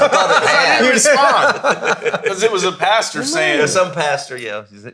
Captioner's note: all laughing